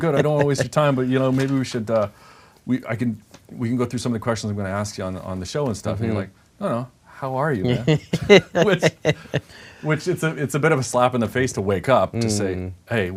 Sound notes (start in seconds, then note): 7.6 laughing